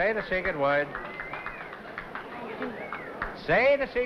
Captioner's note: applause whistling